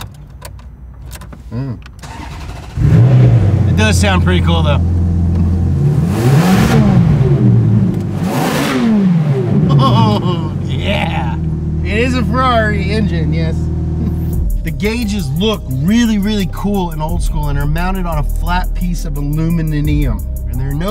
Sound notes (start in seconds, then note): 2.0 car starting; 5.8 car revving